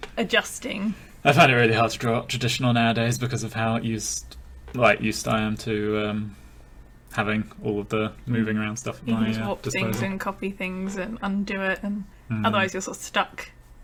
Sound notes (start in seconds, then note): none